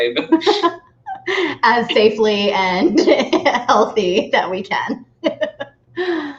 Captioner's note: laughing